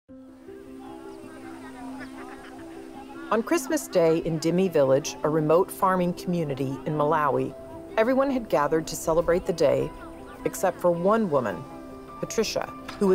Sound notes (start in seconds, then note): 0.6 gentle piano music; 0.6 villagers murmuring brightly